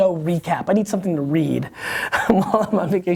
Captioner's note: laughs